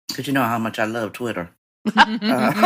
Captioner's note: laughter